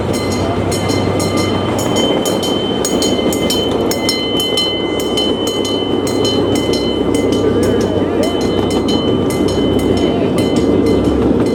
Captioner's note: grade crossing bell ringing